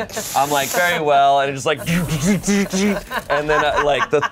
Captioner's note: imitates machine whirring